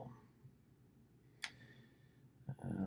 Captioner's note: clicks